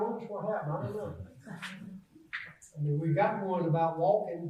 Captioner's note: audience laughs